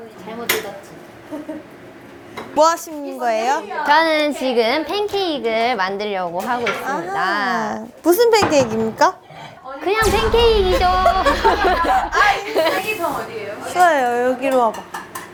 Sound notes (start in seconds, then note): 10.6 haha